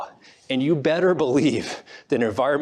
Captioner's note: laughs